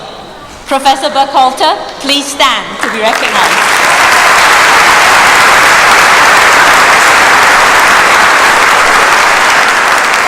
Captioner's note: applause